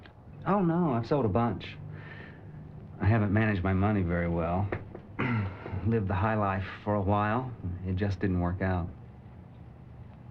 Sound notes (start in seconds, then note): 5.1 clears throat